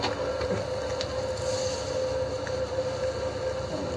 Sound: sizzling

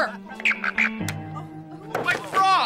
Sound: frog croaking

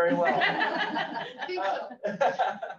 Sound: all laughs

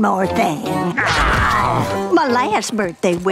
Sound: groaning

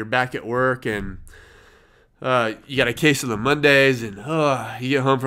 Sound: sighs

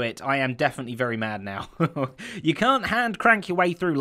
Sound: chuckles

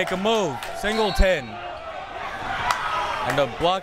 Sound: whistle tweeting

